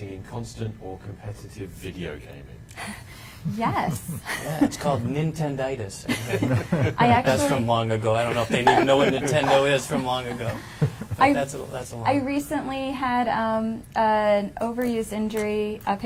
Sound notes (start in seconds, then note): 3.5 chuckling; 6.1 panel laughing